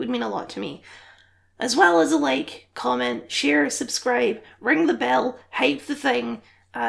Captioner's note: deep breath